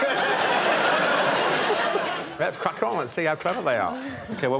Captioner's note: laughter